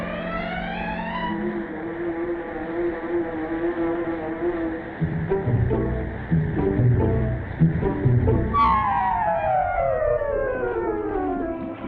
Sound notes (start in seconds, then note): 1.5 machinery buzzing